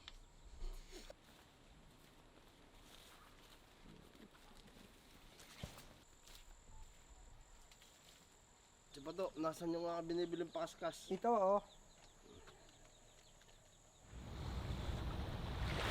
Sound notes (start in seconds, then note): none